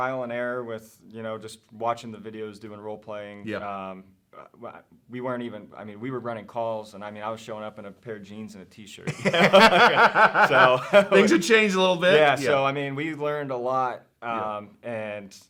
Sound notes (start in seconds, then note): 9.0 laughing